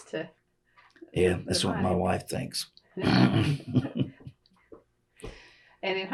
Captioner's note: laughs